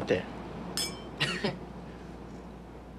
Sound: glasses clinking; Dom chuckling

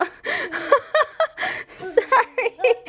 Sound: laughing

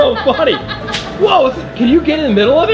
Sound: laughs

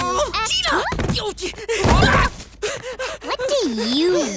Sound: groaning; panting

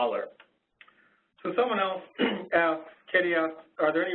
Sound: voiceover

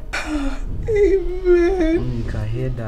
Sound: crying

